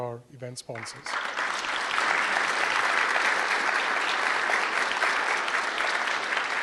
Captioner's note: applause